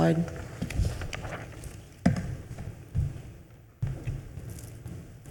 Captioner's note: paper shuffling